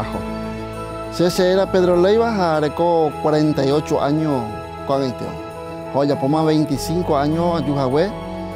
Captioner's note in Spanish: Voz de hombre hablando en guaraní